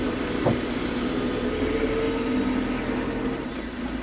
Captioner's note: vehicle rumbling